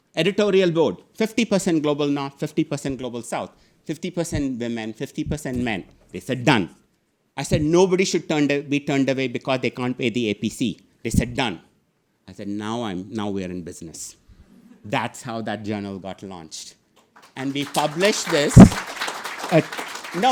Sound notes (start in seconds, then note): 17.0 audience clapping